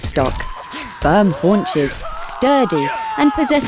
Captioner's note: sounds of violence